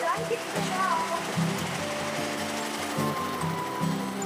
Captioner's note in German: Maschinenrattern, klimpernde Musik